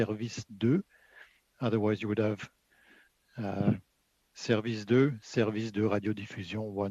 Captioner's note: speaking French